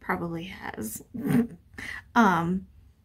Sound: laughs

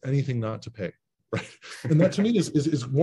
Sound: laugh

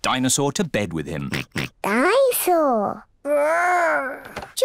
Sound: oinks

